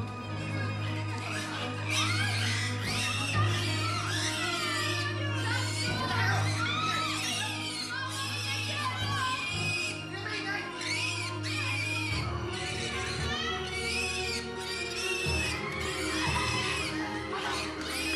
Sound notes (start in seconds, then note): 2.2 crying; 2.2 pig squealing; 6.7 nuns screaming; 13.7 pig squealing; 15.8 nuns screaming